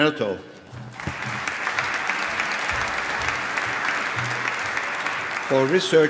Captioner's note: applause